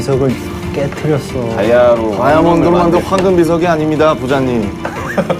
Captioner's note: rumbling